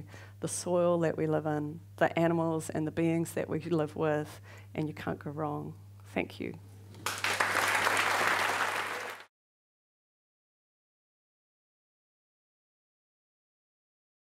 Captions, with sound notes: the soil that we live in, the animals and the beings that we could live with and you can't go wrong. Thank you. (audience applauds)